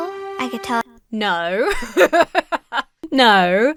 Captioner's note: laughs nervously